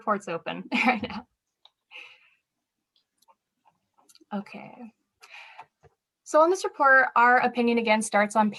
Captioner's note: laughter